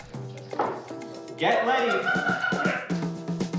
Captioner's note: scattered hysterical laughter